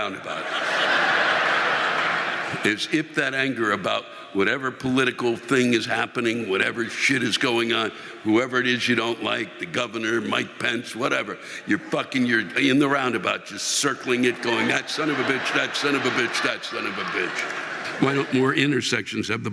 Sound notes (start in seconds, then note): 4.1 audience laughing